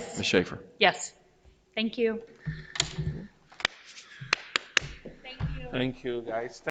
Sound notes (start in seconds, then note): 4.2 members clapping